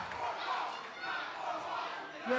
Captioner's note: fans chanting